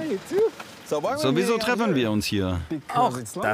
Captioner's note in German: englisch